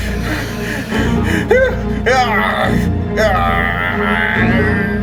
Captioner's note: Larry moaning